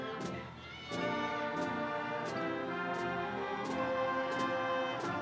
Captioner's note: audience cheering